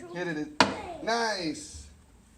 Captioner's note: hammer thumps